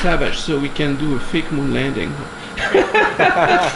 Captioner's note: laughter